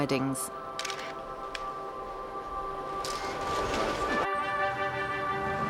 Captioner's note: camera shutter clicking